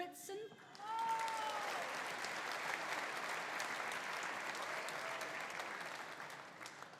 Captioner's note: audience applauding; audience cheering